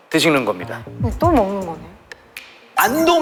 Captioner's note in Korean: 두근